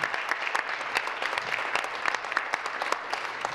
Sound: voice fading; applause

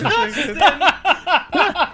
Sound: laughs

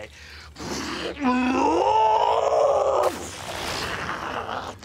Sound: growls and roars

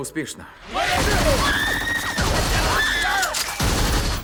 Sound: men shouting; rapid gunfire; woman screaming

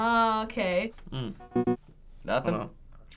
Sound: blip

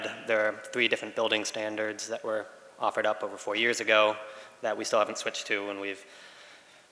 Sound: none

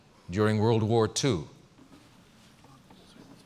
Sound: pause

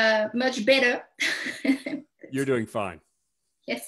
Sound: chuckles

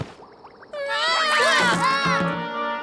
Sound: screaming

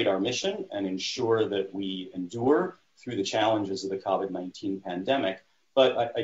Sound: none

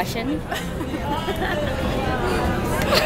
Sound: laughs

